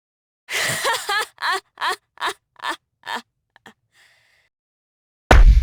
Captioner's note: laugh